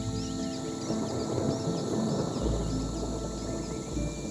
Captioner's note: thunder rumbles